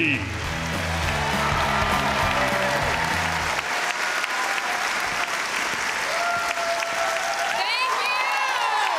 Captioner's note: applause